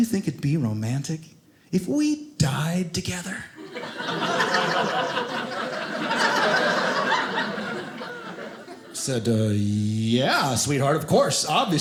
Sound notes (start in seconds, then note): 3.6 audience laughing